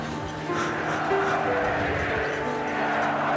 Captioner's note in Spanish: Gritos en alemán